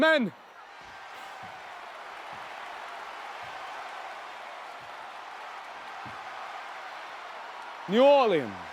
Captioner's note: cheering